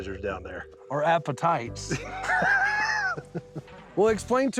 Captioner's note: chuckling